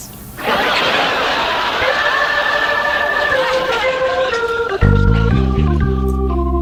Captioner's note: audience laughs; organ music